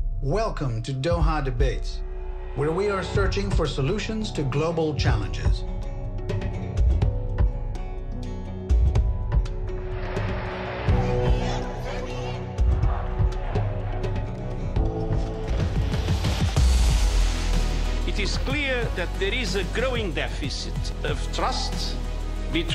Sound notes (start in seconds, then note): 6.2 dramatic music; 10.8 crowd chanting